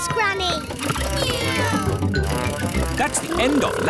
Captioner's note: kids imitating vehicle sounds